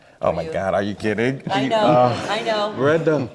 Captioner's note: audience laughing